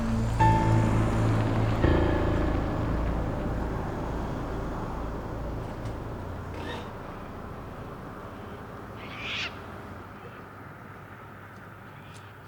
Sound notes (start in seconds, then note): 9.1 bird squawking